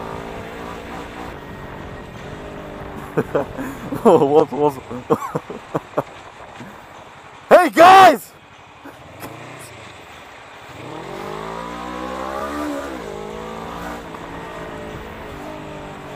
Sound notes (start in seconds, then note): 3.0 laughing at comments